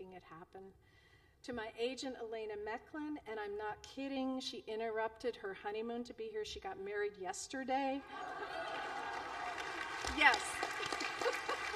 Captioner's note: applause